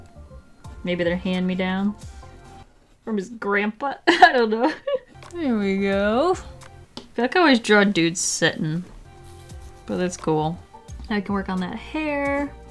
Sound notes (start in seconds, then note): 4.0 giggle